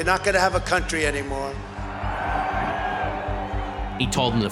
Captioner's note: cheers and applause